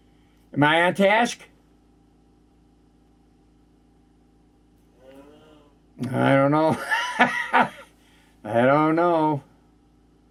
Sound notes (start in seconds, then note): 6.6 laughing